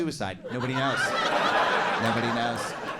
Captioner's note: audience laughing